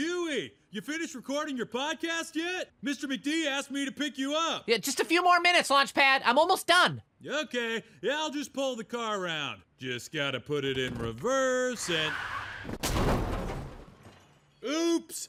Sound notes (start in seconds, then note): 11.8 tires screech; 12.4 crash